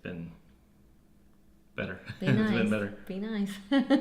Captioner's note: laugh